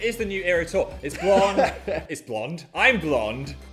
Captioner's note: laughing